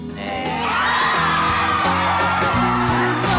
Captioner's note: exuberant cheering